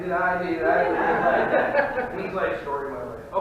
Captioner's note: audience laughing